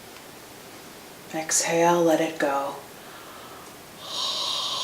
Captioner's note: exhales